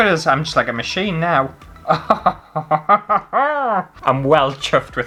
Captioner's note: crazy Laugh